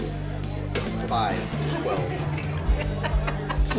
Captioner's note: laughing